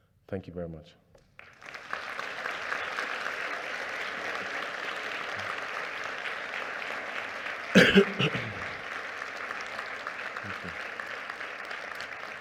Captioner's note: applause